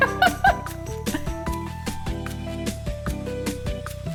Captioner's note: laughing